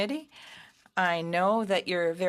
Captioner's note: speaking in French